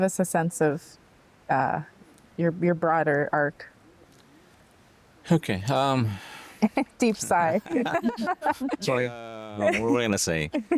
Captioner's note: laughter